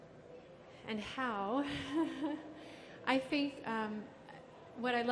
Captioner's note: laughs